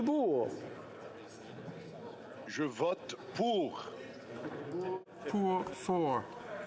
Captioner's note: speaking French